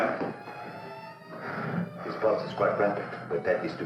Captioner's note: heavy breathing